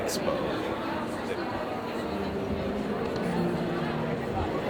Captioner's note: crowd chattering